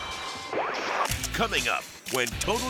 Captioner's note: slides swooshing